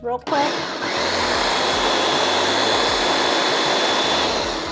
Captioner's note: blender whirs